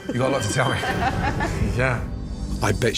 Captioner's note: laughs